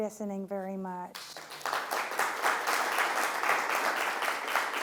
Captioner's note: applause